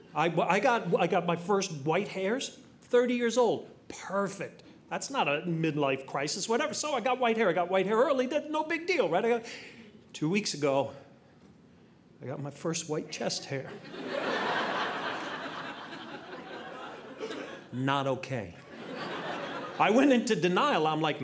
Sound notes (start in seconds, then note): 13.7 audience laughing